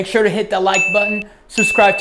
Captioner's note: bell rings